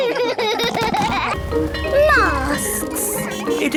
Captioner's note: all laugh; bell ringing